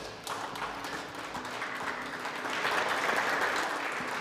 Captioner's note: clapping